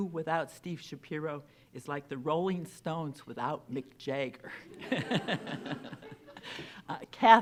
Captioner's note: laughs